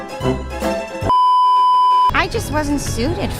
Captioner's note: beeeeeep